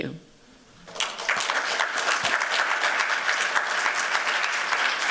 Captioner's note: applause